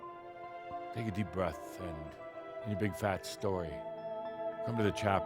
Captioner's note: none